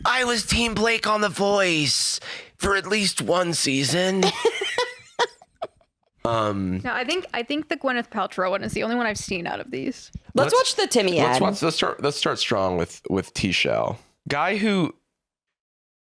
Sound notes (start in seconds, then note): 3.7 laugh